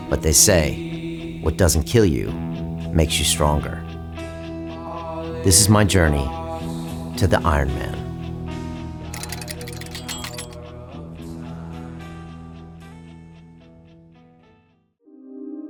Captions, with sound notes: But they say what doesn't kill you makes you stronger. This is my journey to the Ironman. (gear clinking)